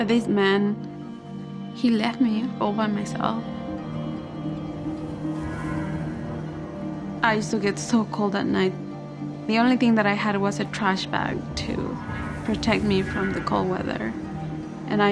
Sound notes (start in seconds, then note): 3.5 wind blows